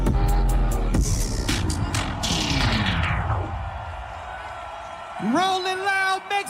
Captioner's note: crowd cheering